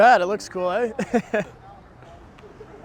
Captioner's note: Caufield laughs